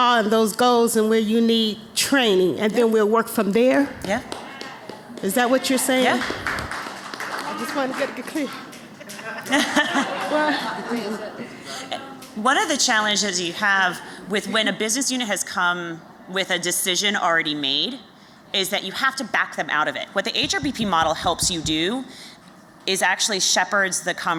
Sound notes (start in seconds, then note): 5.9 applause; 11.9 laughter